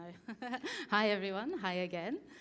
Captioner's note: laugh